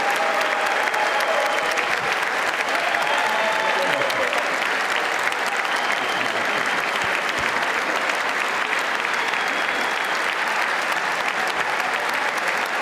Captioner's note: cheers and applause